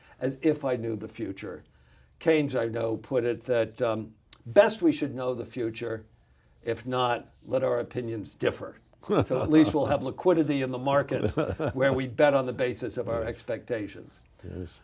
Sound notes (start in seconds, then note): 9.0 laughs